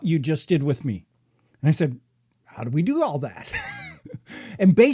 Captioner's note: laughing